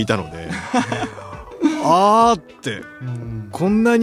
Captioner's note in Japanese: 笑い